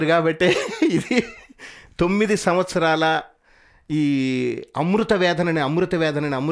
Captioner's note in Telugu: నవ్వు